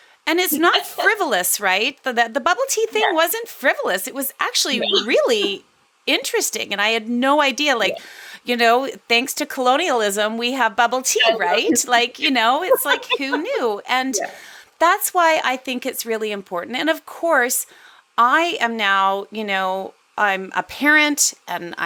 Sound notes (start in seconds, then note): 11.0 laughs